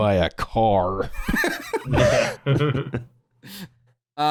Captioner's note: laughter